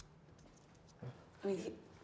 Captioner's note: whispers